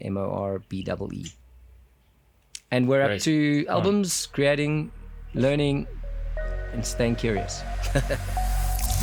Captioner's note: laugh